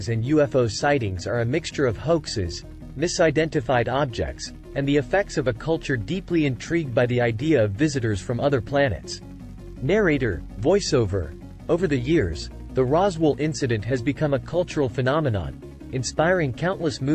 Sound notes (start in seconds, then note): 10.4 voiceover